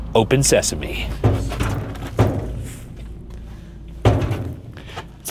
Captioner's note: door clanging